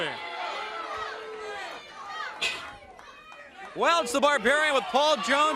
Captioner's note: crowd chatter